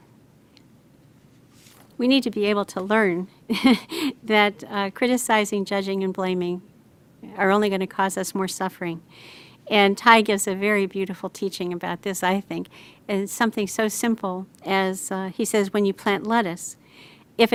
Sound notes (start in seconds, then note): 3.5 chuckles